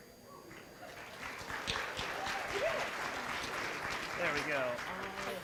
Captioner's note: applause